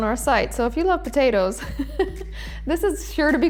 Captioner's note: laughs